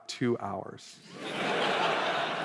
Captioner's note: laughter